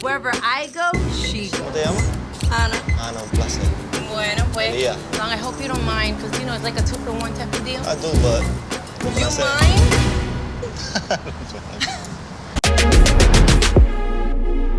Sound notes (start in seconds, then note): 1.9 speaking Spanish; 3.8 speaking Spanish; 10.6 laughing